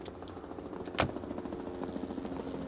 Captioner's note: helicopter passes overhead